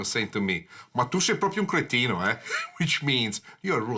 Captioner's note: speaks foreign language